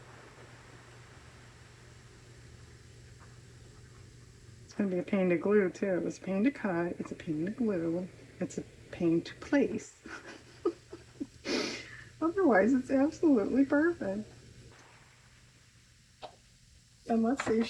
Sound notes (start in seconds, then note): 16.0 laughs